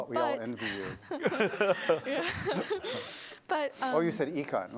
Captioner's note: laughter